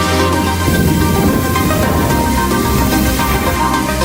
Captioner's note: rocket blast